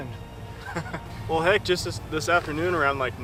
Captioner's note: laughs